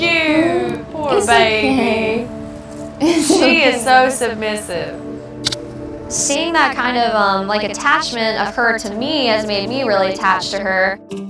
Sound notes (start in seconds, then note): 5.4 kiss smacking